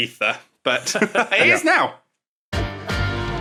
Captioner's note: laugh